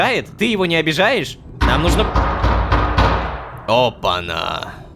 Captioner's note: knock on the door